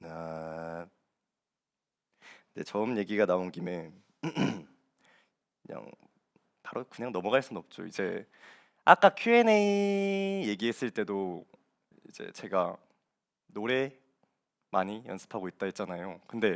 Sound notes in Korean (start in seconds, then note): 4.2 목을 가다듬음